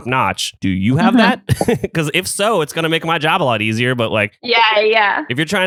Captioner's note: laughs